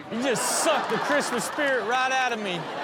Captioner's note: audience laughs